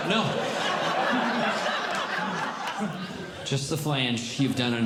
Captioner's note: audience Laughing